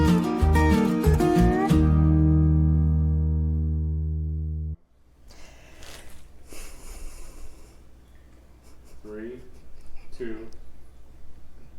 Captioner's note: laughing